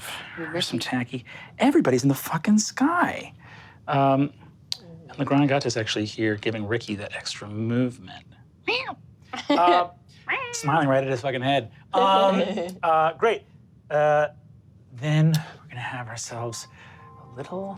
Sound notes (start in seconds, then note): 10.2 laughs; 10.2 meows